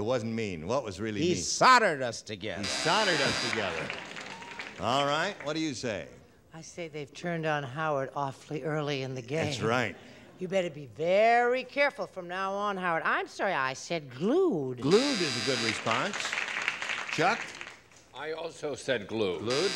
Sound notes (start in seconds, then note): 2.6 buzzer; 2.7 applause; 14.8 buzzer; 14.8 applause; 19.2 applause; 19.4 buzzer